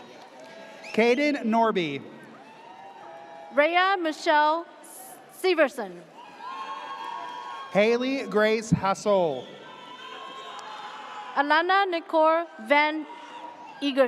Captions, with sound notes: - Caden Norby. - Raya Michelle Steverson. (audience cheers) - Haley Grace Hasole. - Alana Nicor Van Eagers.